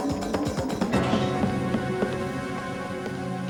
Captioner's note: footsteps